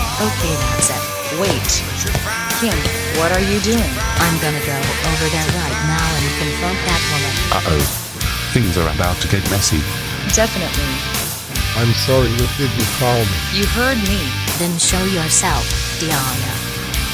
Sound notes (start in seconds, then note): 1.5 footsteps